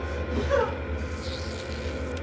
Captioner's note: Claire sobs; tape tearing